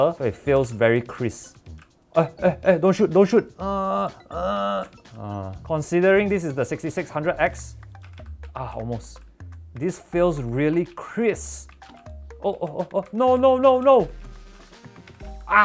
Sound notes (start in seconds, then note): 3.5 constipation sounds